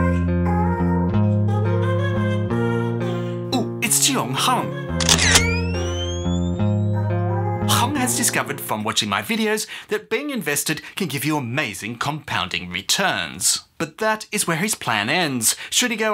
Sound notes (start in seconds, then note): 5.0 camera shutter clicks